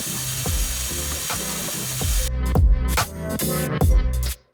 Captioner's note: water spraying